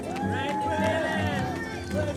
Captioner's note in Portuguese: público responde com gritos de apoio